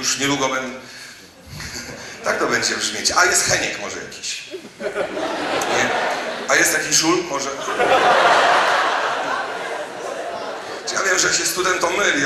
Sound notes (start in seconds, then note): 4.9 audience laughs; 8.0 audience laughs